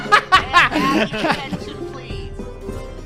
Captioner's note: laughs